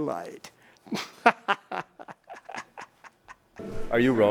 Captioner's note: chuckles